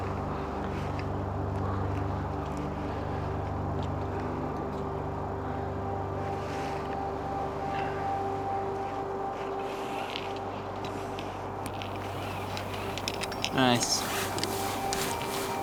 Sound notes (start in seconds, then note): 8.8 labored breathing